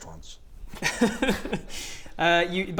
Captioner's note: snickering